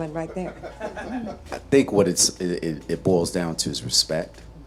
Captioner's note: person laughing